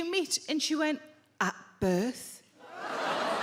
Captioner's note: crowd members groan